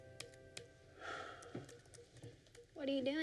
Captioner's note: sighs